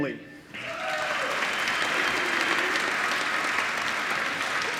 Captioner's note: applause